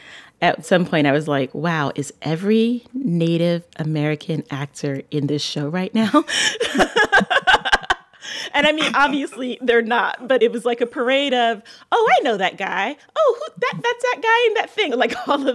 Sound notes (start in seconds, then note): 6.4 laughter